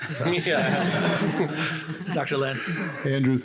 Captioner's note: laughter